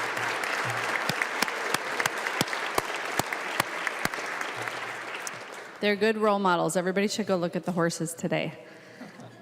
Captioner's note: applause